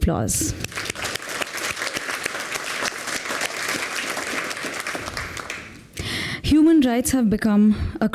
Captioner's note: applause